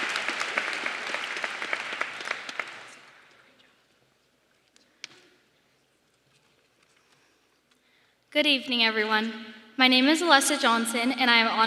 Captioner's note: applause